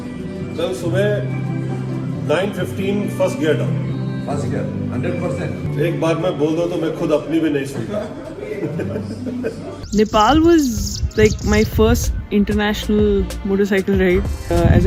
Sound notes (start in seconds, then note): 8.4 laughter